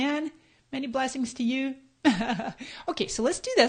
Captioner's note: laughs